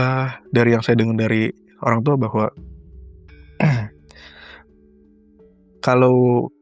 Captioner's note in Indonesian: berdehem